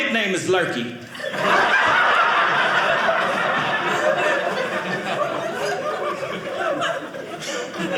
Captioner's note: audience laughing